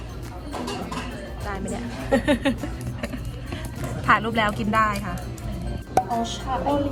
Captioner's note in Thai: หัวเราะ